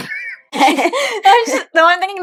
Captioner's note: laughing